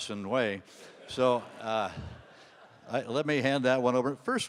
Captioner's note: audience laughing